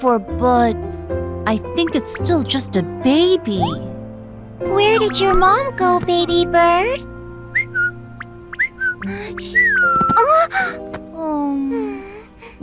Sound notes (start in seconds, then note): 7.0 weak chirping; 10.2 Rachel gasps